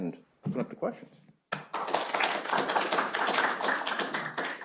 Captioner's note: applause